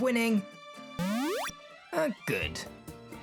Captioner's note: healing Sound